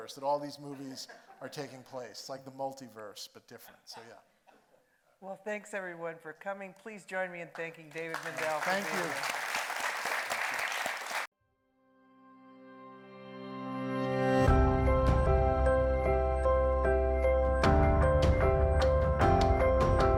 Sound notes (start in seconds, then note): 9.8 audience applauding; 14.4 upbeat bright music